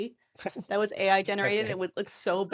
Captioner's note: laughing